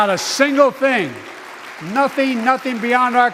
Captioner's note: applause